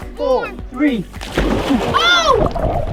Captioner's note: water splashing